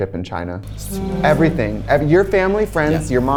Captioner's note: boat horn